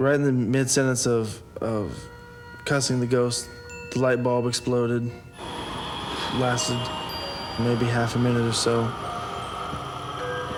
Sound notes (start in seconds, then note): none